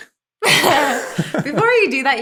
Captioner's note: both laugh